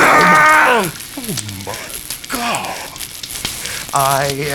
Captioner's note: flesh ripping; scream; wheeze